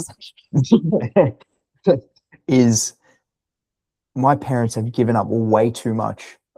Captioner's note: laughing